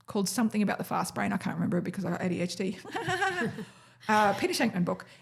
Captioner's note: chuckles